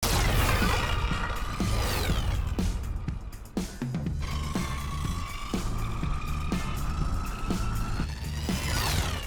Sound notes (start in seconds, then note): 0.0 energy whirring; 1.2 upbeat music